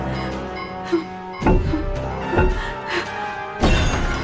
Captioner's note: rock banging on window